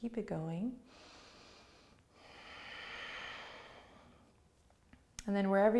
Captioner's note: breathes deeply